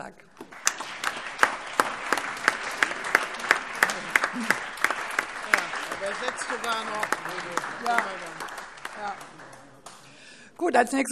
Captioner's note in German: Allgemeiner Beifall